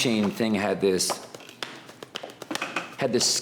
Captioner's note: hands slapping